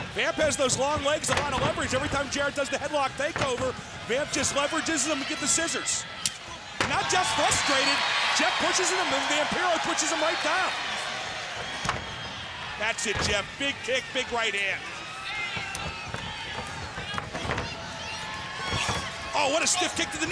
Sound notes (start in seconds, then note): 6.7 body thudding; 11.8 blows thudding; 17.1 body thudding; 18.7 kick thudding